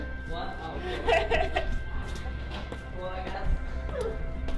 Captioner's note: laughing